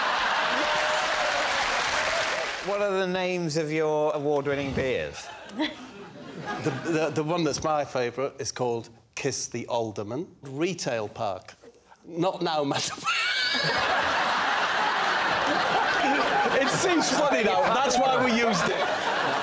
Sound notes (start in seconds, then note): 0.2 laughter; 13.1 wheezes hysterically; 15.5 laughter